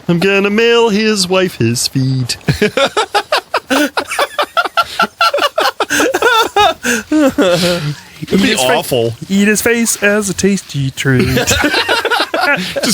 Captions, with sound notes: I'm gonna mail his wife his feet [Starts laughing again] That'd be awful Eat his face as a tasty treat [Laughs]